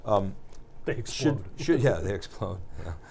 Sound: laughs

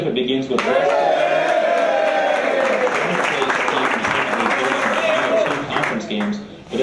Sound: applause

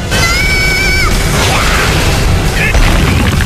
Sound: screaming

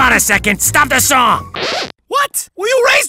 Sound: record scratches

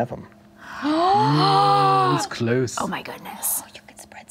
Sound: gasping

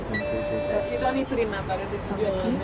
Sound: keypad buzzing

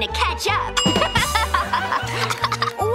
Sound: laughing

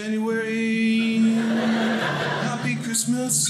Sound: audience laughing

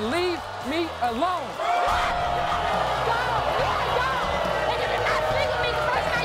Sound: audience boos

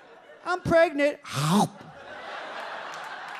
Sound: audience laughs; chomping sound; audience laughs and claps

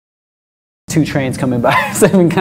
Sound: chuckles

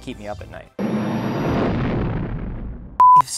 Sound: whoosh

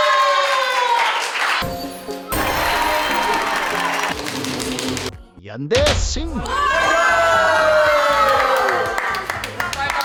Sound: applause

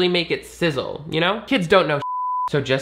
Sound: beep

